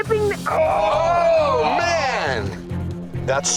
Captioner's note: men grimacing